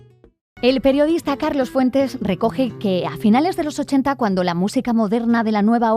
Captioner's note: speaking in Spanish